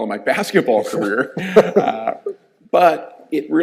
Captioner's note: both chuckling